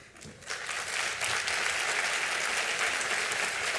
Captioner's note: applause